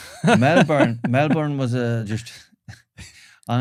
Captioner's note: laughs